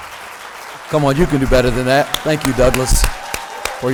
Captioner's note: applause